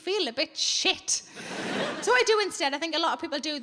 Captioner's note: audience laughing